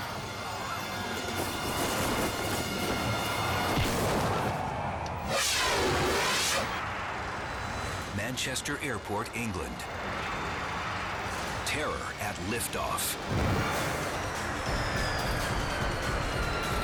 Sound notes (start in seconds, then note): 0.0 thrilling music; 3.8 body slams; 13.2 dramatic music